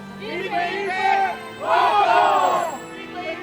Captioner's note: three cheers